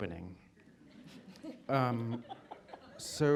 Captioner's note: laughter